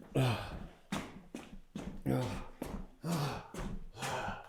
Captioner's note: Jacob panting